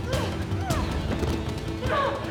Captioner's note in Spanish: Golpes